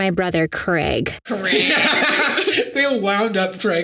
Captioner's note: Jarvis laughing